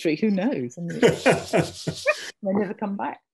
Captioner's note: laughs